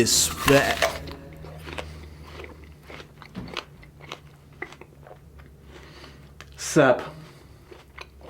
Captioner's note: apple crunch